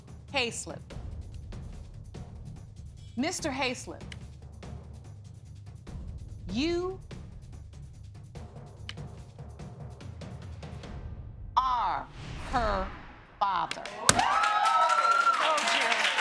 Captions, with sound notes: Mr. Hayslip, you... ...are her father. (AUDIENCE CHEERING) Told you.